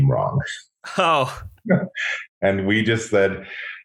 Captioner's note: laughs